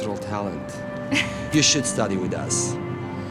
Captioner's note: Maddie laughs